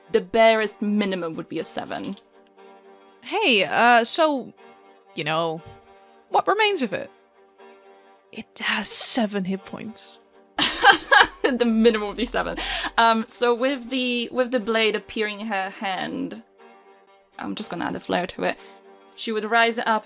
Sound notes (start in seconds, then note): 8.0 whispers; 10.6 laughs